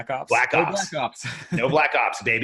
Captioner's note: laughs